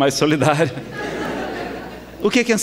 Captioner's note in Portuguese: risadas